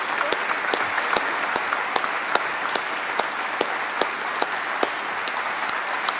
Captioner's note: applause